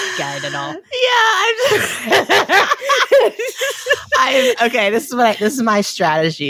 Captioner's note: both laugh